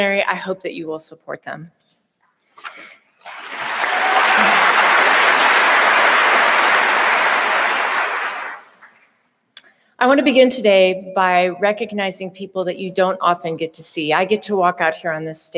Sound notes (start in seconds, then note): 3.2 audience applauding